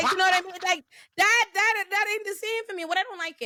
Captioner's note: laughter